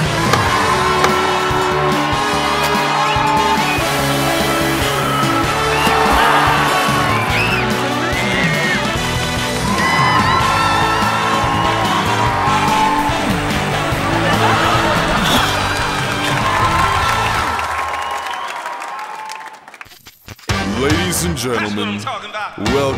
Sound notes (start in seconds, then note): 0.1 shovel thuds dirt; 3.2 person whistles; 14.2 audience laughs; 16.9 audience cheers